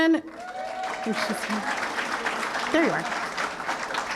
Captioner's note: applause